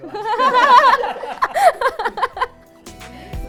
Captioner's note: laughing